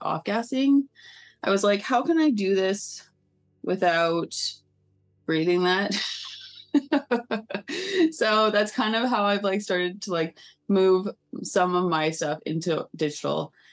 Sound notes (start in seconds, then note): 6.6 laughing